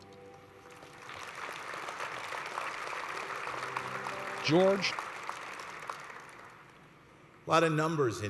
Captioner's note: applause